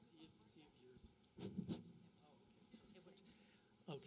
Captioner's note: background Discussion